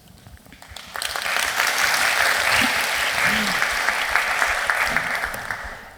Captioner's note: applause